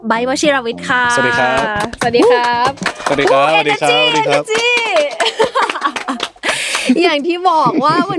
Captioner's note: laughs